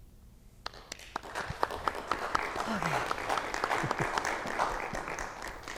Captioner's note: audience clapping